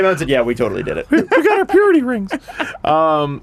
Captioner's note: high-pitched voice